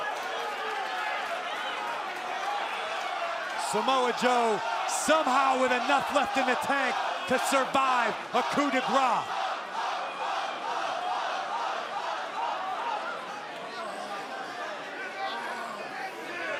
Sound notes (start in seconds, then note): 3.4 crowd cheering; 4.9 crowd chatter; 10.6 crowd chatter